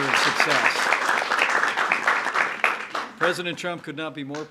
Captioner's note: applause